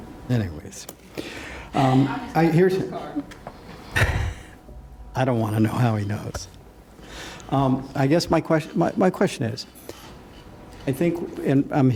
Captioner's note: laughter